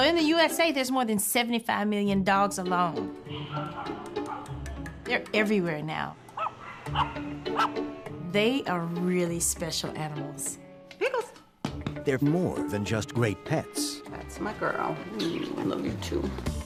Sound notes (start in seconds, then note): 3.2 dogs barking; 6.3 yapping